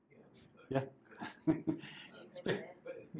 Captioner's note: laughs